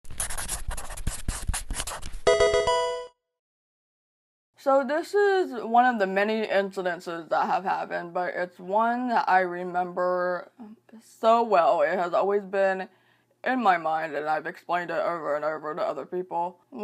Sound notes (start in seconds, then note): 0.0 marker scratching; 2.2 electronic video game chime